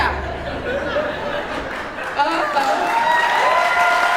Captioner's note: laughter